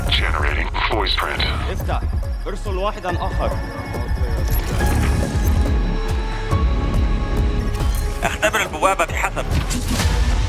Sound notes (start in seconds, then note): 1.7 guard speaking Arabic; 7.8 digitized voice in Arabic